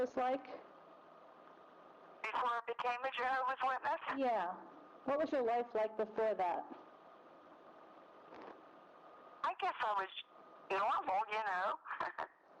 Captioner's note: laughs